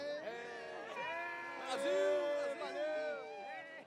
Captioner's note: shouting